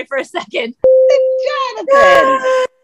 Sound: beeping chime

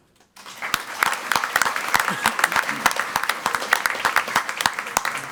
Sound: crowd clapping and cheering

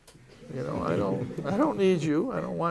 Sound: laughter

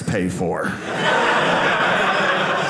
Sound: audience laughing

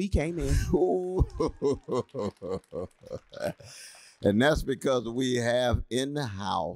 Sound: laughter

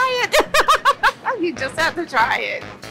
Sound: laughs

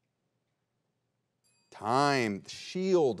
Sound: bell dings

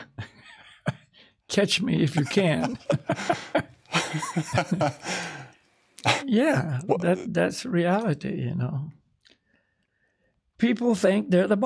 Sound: laughs

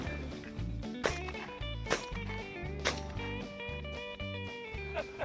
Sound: multiple shots go off

